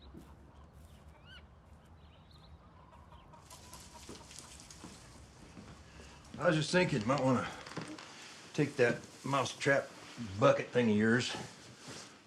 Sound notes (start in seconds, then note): 0.0 birds chirping; 3.6 paper rustling